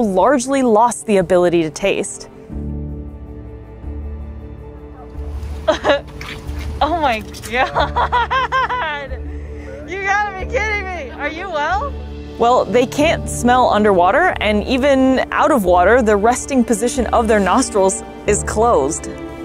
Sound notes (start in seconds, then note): 2.4 background music; 5.6 laughs; 7.4 laughing; 19.2 background music